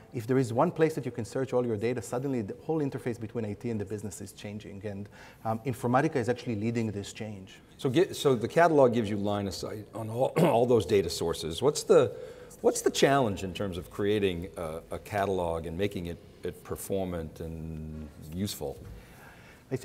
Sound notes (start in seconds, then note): 10.3 clears throat